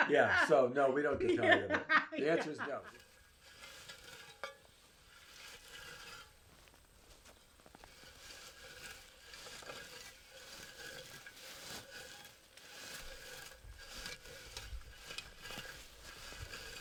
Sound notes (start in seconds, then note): 2.5 sound of hand rake rhythmically rustling the low-bush berries, crickets chirping